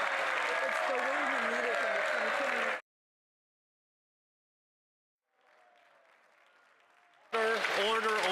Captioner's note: some Applause